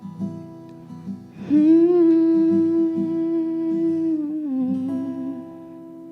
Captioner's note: humming